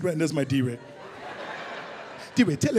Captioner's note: audience laughs